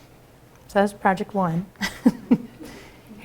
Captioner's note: laughter